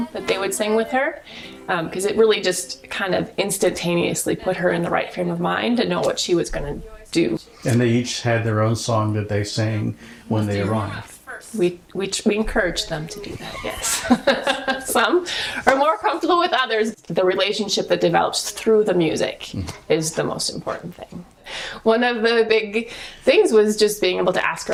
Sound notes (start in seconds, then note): 13.3 laughter